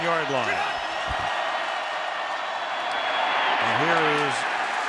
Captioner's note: crowd cheering